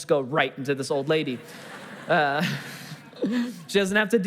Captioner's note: congregation laughing